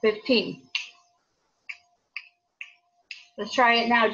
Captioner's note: fingers snapping